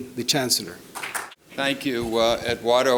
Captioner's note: clapping